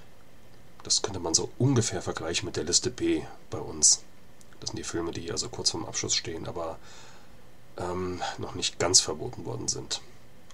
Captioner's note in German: German